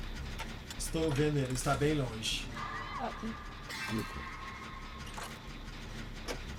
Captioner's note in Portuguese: som de passos